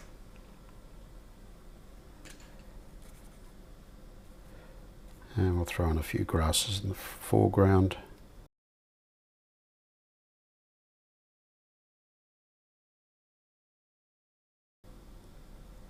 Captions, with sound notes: (silence) Some smaller grasses in the distance.